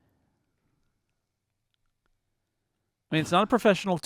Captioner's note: silence